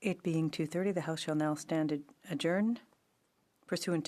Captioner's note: speaking in French